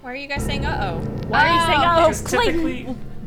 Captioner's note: dramatic sound effect